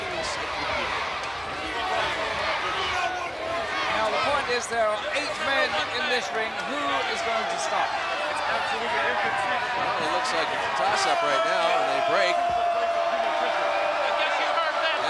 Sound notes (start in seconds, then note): 12.7 wrestlers grunting; 14.5 crowd cheering